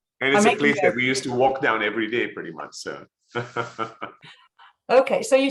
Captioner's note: laughs